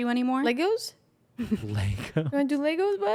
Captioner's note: laughs